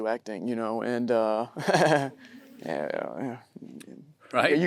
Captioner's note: chuckles; audience chuckling